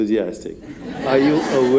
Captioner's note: laughter